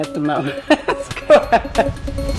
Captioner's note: laughs